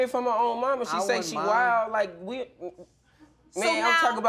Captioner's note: stutters